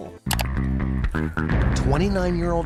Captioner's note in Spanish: música optimista; clics en la foto